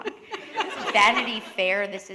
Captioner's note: laughter